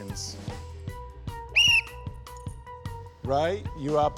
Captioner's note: blows whistle